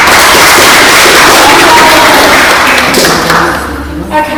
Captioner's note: claps